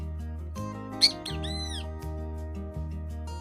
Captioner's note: bird chirps